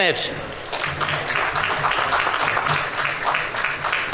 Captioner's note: audience applauding